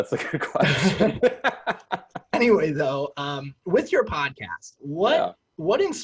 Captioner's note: laughs